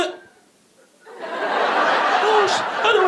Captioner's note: audience laughing